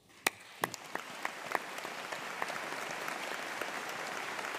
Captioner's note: audience applauding